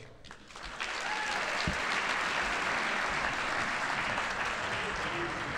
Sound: audience applauding and cheering

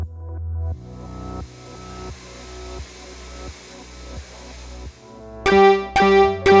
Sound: background music playing; machine whirring; beeping sound

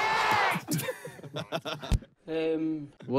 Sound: players laugh

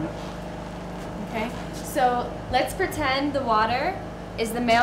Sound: woman speaking native language

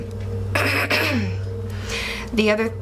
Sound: clearing throat

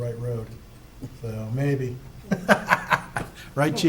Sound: laughing

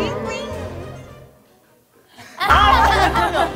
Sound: sigh

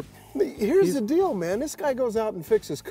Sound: none

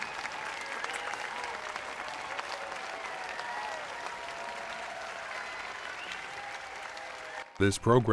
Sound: audience applauds/cheers

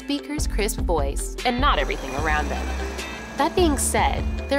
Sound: construction noise

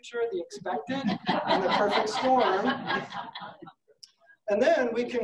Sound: laughing

